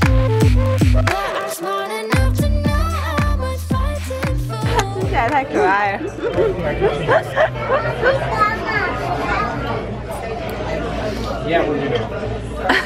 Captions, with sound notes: She looks so cute eating that (laughing hysterically)